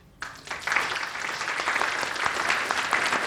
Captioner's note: applause